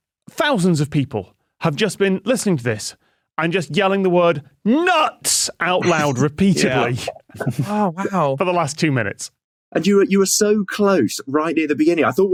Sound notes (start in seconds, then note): 5.8 chuckle